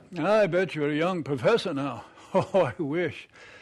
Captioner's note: chuckles